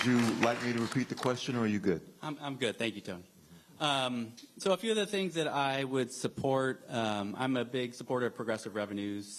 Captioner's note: applause